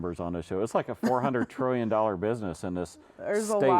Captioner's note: laughs